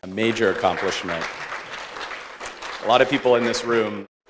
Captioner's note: audience applauds